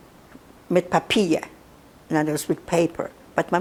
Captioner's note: non-english